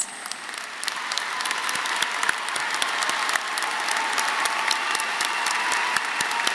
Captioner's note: audience cheering; audience applauding